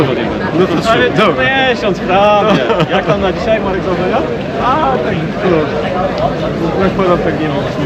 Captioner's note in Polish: śmiech